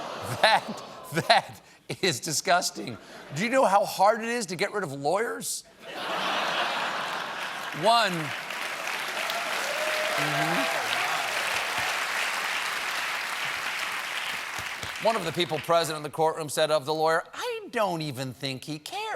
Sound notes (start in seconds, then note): 4.8 applause; 5.8 laughter; 10.6 applause